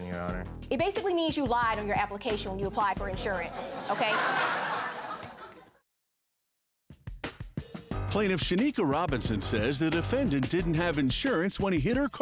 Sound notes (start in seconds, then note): 5.3 audience laughing